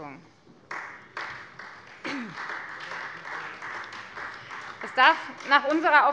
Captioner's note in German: Beifall Freie Demokraten